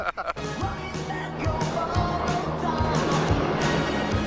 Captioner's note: Tom and Harold laughing; rock music; car accelerates quickly